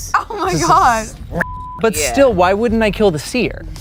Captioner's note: beep